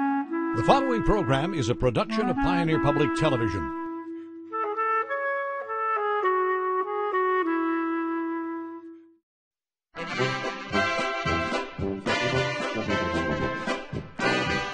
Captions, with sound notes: - [Voiceover] The following program is a production of Pioneer Public Television. (flute music) (lively polka)